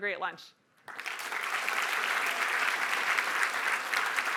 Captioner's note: applause